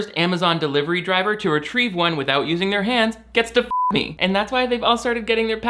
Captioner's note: beep